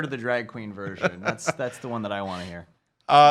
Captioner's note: laughs